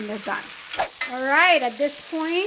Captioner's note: screen whooshes